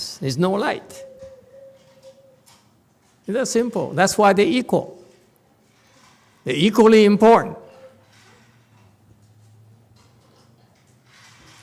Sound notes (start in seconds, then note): none